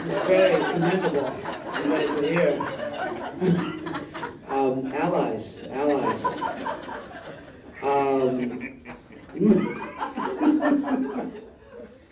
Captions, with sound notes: (audience laughing drowns out Aasif) You guys are here. Allies, allies. (laughs)